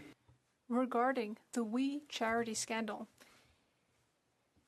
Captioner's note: speaking French